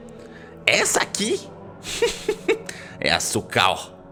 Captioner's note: laughs